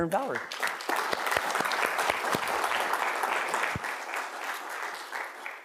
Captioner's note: audience applauding